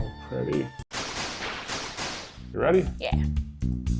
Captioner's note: laser blasting